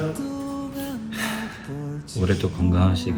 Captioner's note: sigh